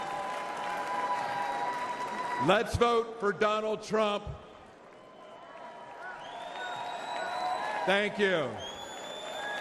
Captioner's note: applause